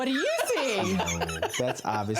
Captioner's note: laughter